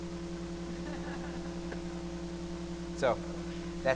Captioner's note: laughter